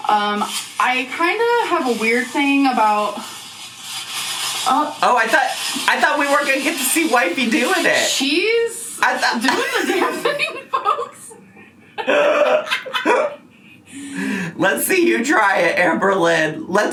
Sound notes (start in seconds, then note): 11.9 laughing